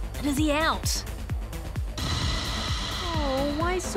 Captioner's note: strident sound effect